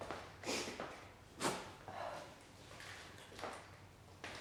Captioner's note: sniffling